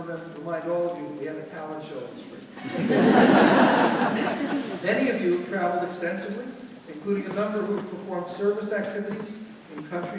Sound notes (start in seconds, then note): 2.6 audience laughing